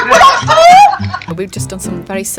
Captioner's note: background laughter